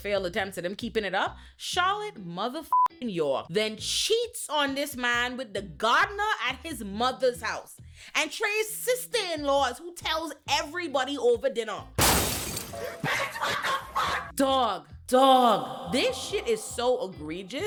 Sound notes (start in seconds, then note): 12.0 glass breaking